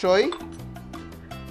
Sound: clink

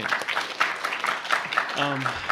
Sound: applause

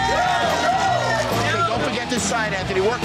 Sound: patrons cheering

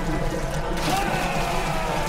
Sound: splash

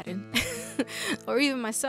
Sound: laughs

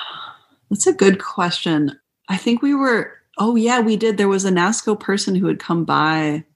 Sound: sigh

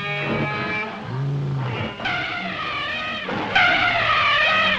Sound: animals Lowing, Screeching; trumpeting

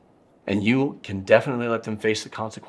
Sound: none

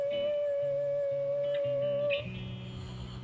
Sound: none

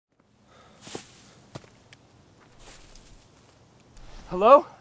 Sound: footsteps tapping

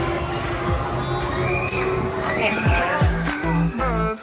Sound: screaming

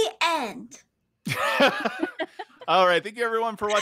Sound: players laughing

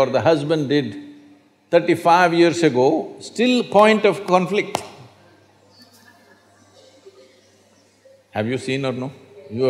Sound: laughs

